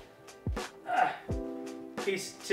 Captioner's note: grunting